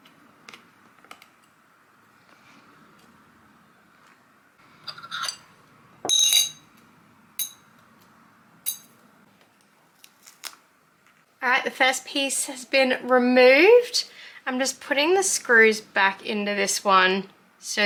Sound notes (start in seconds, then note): 6.0 metal clings; 10.1 sticky sounds